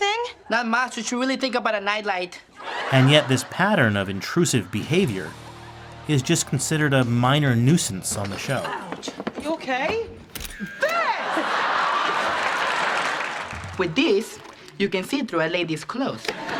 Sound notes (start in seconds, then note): 10.1 camera click; 10.6 off-screen laughter